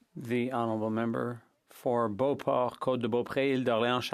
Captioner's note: speaking French